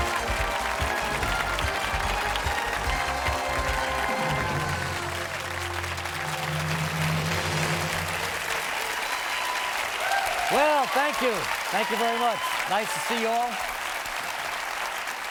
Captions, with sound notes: [ APPLAUSE ] WELL, THANK YOU. THANK YOU VERY MUCH. NICE TO SEE YOU ALL.